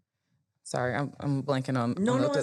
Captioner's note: murmurs